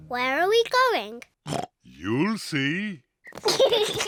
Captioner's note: oinks; kids giggle